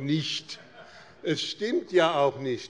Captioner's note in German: Lachen